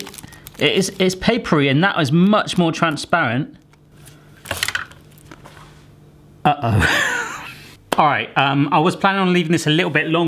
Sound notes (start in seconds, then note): 6.6 laughing